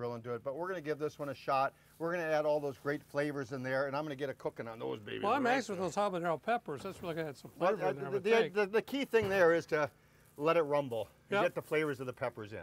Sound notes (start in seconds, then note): none